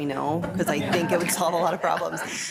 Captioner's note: group laughs